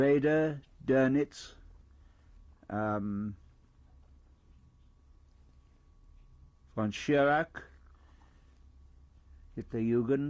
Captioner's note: pauses for 6 seconds